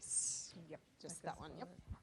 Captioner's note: foreign language